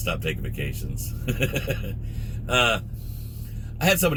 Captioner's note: laughs